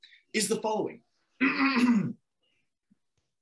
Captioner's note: Lucifer clears throat